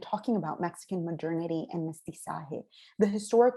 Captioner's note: spanish